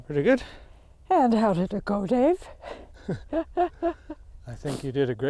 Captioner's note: both laughing